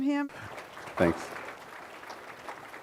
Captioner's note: audience applauding